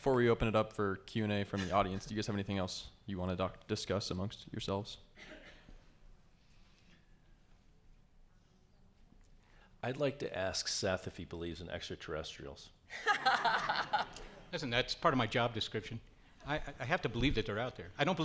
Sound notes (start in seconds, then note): 13.0 laughs